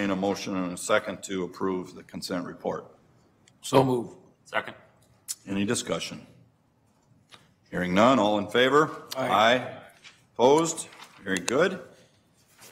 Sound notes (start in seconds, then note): 9.3 multiple voices